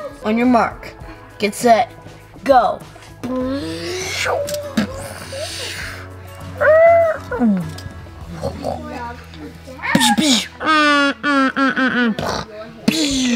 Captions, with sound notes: On your mark, get set, go. (imitates vehicle sounds)